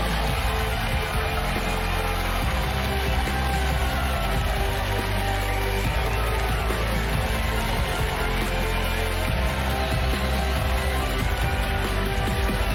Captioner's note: cheers and applause